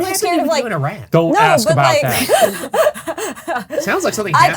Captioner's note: group laughing